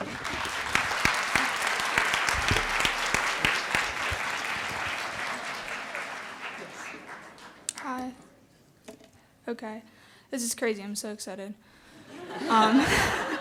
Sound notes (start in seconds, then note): 4.0 clapping; 9.0 audience laughter